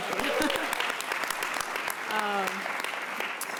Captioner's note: applause